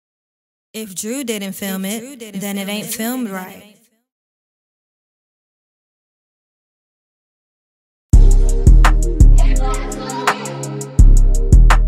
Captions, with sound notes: - [Voiceover] If Drew didn't film it, then it ain't filmed right. (smooth hip hop music)